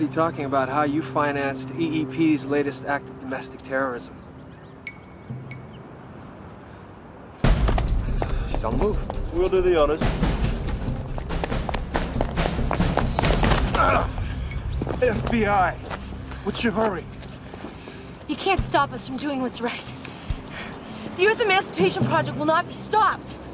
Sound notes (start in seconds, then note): 7.9 sighing; 13.7 grunting